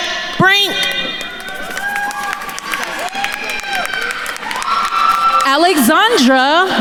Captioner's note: attendees cheering and applauding